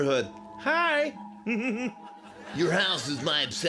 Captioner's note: giggles